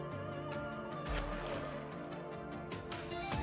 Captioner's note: splash